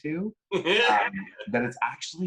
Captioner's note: laughs